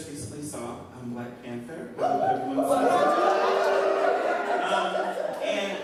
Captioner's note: crowd cheers